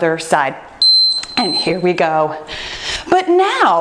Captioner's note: timer beeping